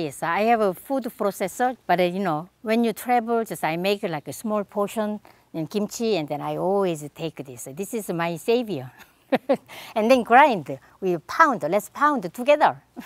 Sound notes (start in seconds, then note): 9.0 laughs